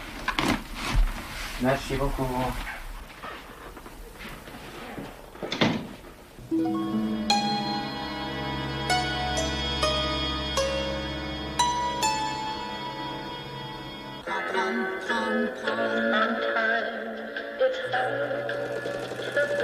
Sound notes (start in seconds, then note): 5.4 door closing; 10.2 suspenseful orchestral music; 14.2 upbeat pop music; 15.2 humming